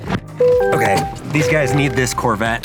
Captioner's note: car dinging